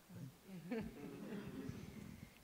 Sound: laughter

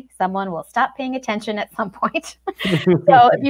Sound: chuckles

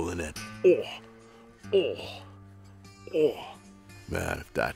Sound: grunts

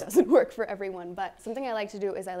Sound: chuckles

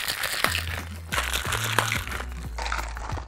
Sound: ice shaking

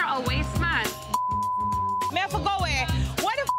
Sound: beep; beep

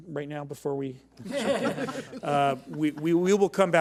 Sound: board laughs

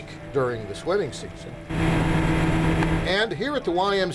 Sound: engine roaring

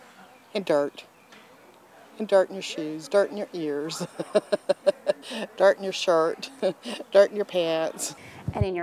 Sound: laugh

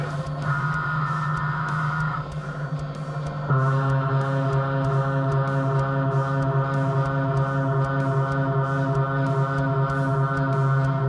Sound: machining noises

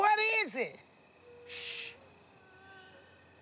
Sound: crying continues

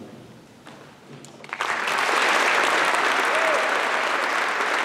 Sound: applause

